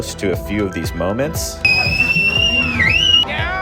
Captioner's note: whistling